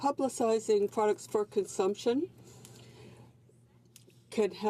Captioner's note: speaking french